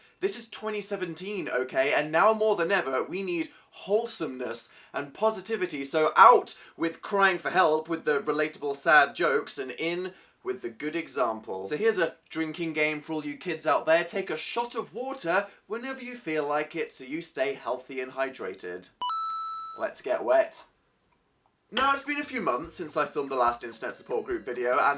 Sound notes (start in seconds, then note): 19.0 ba-ding; 20.5 sips water